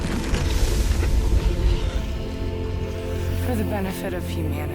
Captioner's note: lava rumbling; emotional music